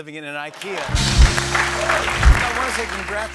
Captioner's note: cheering and applause